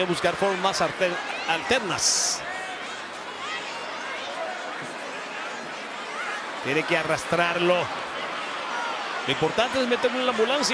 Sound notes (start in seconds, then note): 2.9 crowd murmuring; 6.7 commentator speaking Spanish